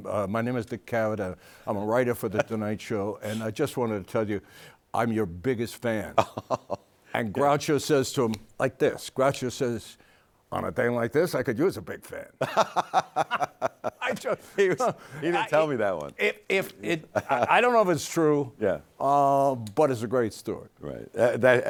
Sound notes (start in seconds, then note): 15.1 both laughing